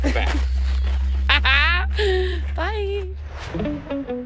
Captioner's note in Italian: risate